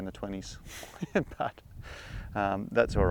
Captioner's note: laughs